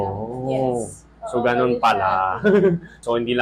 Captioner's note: giggles